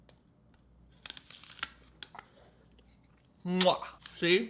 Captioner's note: apple crunching